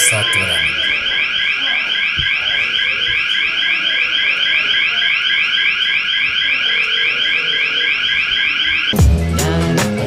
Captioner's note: someone press handle at the door and alarm goes on